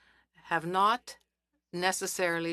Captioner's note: speaking French